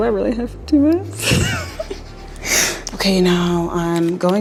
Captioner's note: both laughing